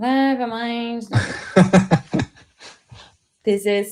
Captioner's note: laughter